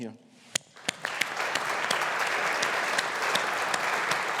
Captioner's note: audience applauding